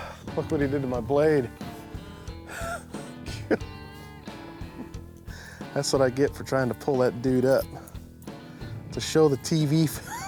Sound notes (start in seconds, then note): 3.3 chuckles; 10.0 laughs